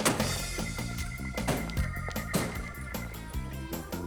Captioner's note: car Doors Slam